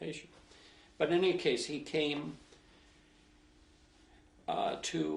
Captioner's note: pauses for 3 seconds